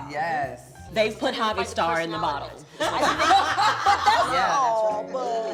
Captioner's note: laughter